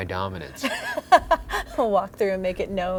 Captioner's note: laughs